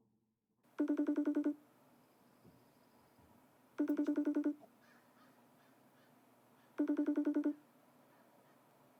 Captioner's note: Facetime call ringtone